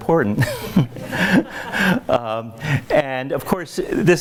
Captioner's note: laughs